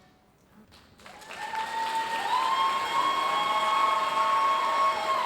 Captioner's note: audience cheering and applauding